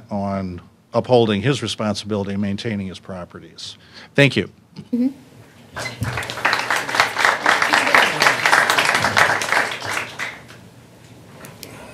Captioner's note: applause